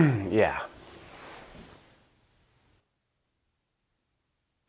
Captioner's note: clearing throat